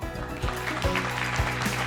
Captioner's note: audience applauding